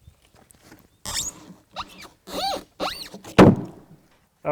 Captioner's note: wood squeaking; wood thuds